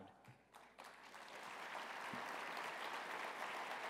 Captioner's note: applause